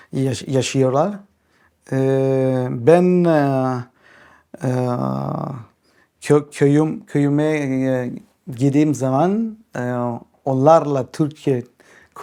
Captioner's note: in Turkish